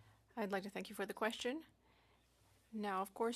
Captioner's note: speaking French